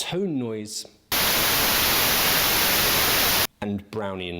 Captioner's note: static blaring